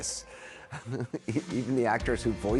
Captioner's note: chuckles